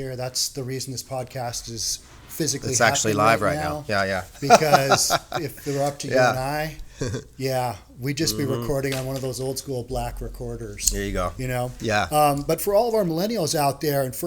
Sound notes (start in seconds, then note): 4.3 chuckles